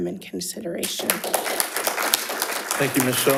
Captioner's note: audience applauding